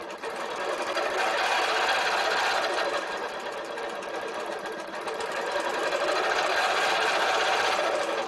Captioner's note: machine whirring